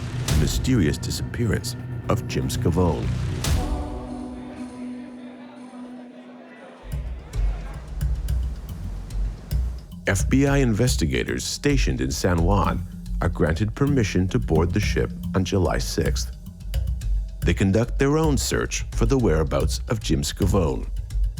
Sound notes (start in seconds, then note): 3.7 people chattering; 4.3 dramatic music